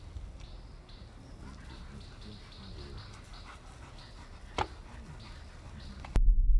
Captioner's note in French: Halètements du chien